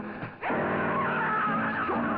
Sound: George scream

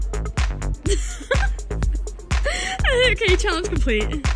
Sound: giggling

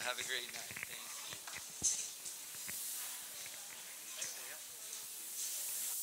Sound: audience rustling while exiting

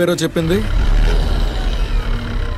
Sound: car Engine Sound

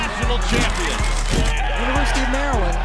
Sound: team cheering

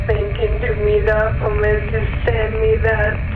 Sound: murmurs

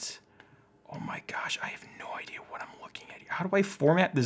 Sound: whispers

